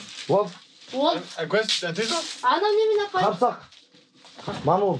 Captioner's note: man speaks in Mongolian